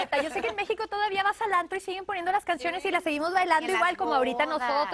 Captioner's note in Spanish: risas